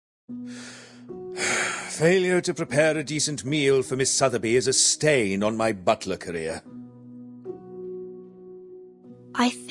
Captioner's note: sighs